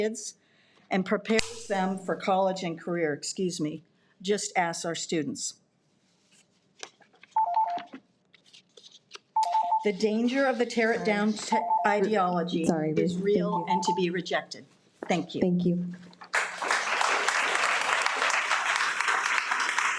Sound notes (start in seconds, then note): 7.3 alarm beeps; 16.3 audience applauding